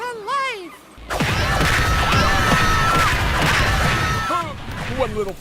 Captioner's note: screaming